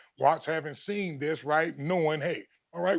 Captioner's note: none